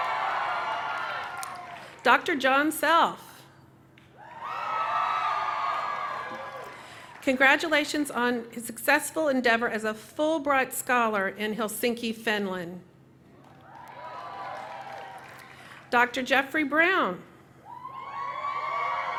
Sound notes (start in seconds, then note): 0.0 cheering; 5.3 cheering